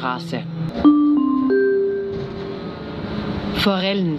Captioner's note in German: Gong